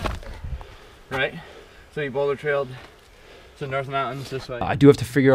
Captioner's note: sfx: footsteps in the snow